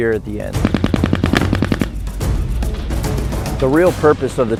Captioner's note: weapons firing